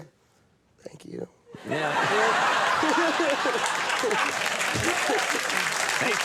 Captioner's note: audience laughing; audience applauding